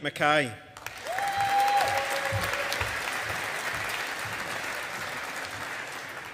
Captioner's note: audience applauding